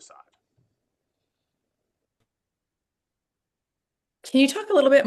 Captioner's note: silence